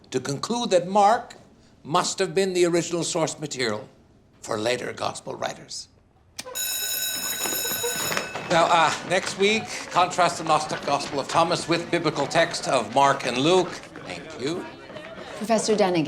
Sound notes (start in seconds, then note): 6.4 school bell rings; 13.1 students clamoring